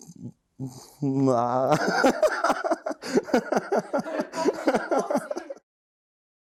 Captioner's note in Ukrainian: сміх